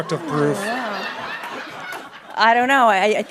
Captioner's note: laughing